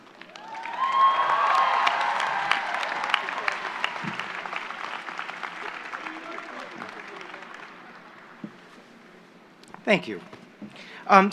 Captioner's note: applause